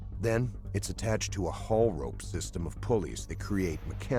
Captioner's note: voiceover